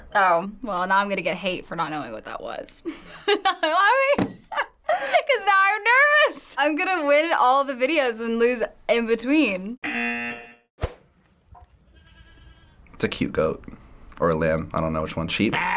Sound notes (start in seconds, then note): 2.9 laughs; 9.8 buzzer